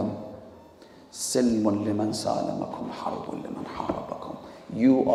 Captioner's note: Arabic